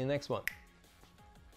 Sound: snaps fingers

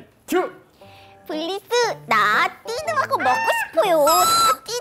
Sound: talking extremely cutely

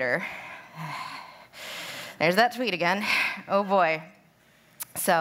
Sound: sighs

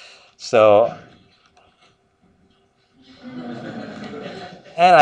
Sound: laughter

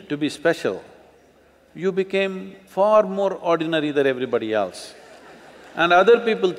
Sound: laughter

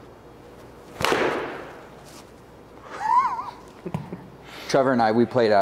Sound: ball thuds; laughs

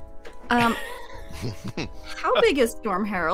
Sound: all laugh

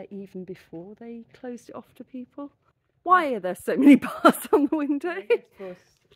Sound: nervous laugh

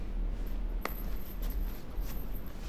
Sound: light smack

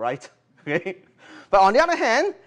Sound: chuckle

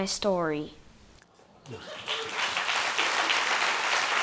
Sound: applause

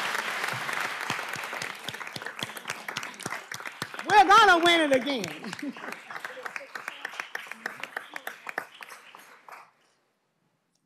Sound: applause

